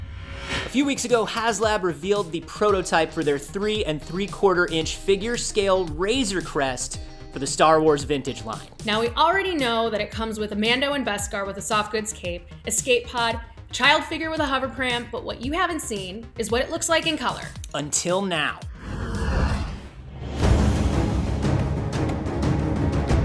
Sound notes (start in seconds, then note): 19.2 ship engine